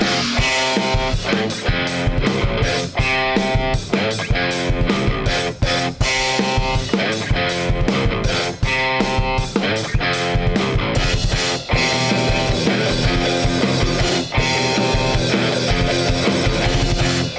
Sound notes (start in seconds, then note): none